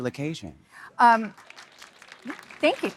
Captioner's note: audience applauding